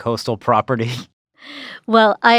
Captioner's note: chuckles